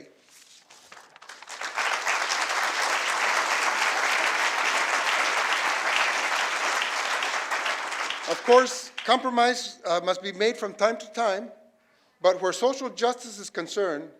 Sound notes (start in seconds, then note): 3.3 applause